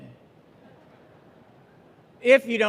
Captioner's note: audience laughing